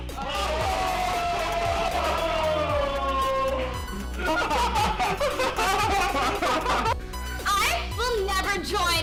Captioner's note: cheers and laughing